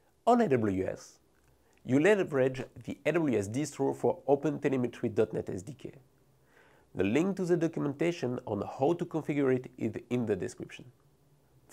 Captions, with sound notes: On AWS, you leverage the AWS Distro (text whooshing) for OpenTelemetry .NET SDK. The link to the documentation on how to configure it is in the description.